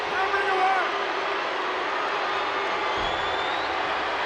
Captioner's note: crowd booing